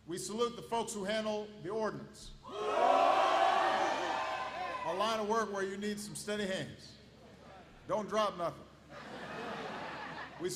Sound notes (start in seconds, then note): 3.2 applause; 8.9 laughter